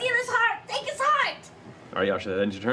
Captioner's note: shouting